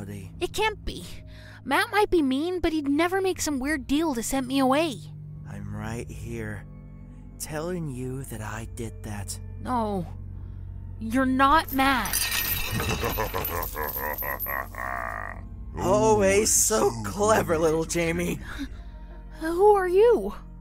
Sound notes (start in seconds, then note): 12.7 laughs